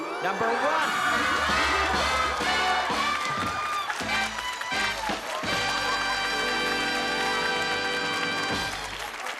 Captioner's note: cheering and applause